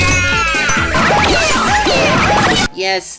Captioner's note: Jaw screams in pain; Ballery continuously screams